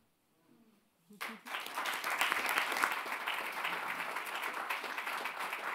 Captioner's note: audience clapping